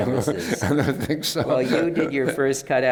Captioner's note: laughs